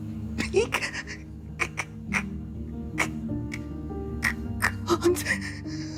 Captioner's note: stuttering; stuttering